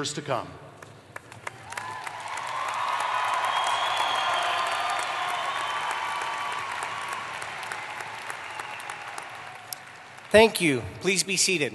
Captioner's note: applause